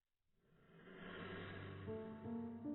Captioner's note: slight Woosh